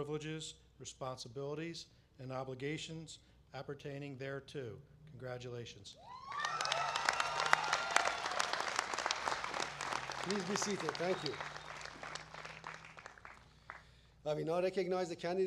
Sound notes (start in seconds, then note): 6.1 applause